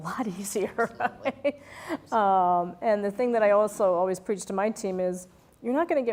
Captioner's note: laugh